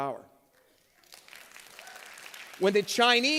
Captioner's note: applause